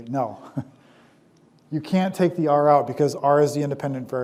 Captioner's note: chuckles